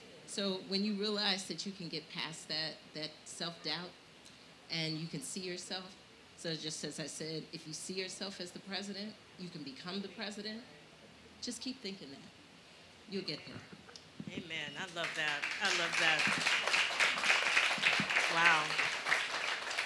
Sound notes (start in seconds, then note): 17.3 audience applauding